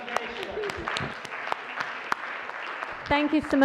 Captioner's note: laughter; applause